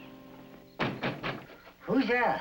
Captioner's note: knocks